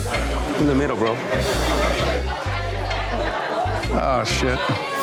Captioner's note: customers chattering